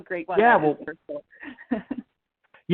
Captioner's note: murmurs; laughs